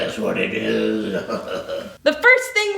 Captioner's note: ominous laughter